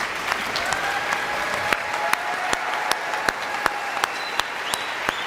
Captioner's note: audience cheering; audience clapping